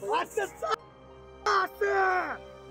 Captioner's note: shout